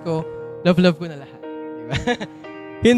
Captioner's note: chuckles